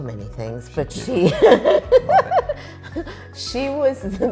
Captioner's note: both laughing